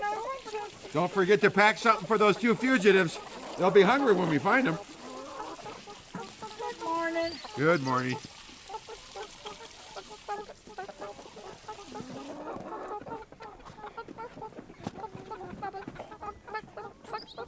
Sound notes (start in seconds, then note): 5.0 chickens happily clucking; 5.0 water rushing; 8.6 chickens clucking; 12.9 footfalls scuffing